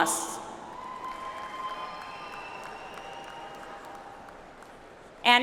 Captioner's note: audience applauds